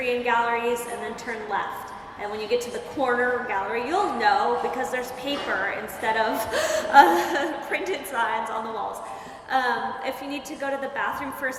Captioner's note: laughter